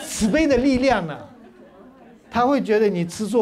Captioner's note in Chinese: 哈哈哈